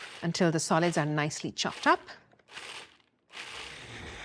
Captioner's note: whirring softly